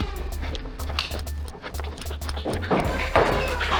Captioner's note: footsteps and heavy breathing; motors revving and footsteps; motors revving and rapid thunking of darts from multiple blasters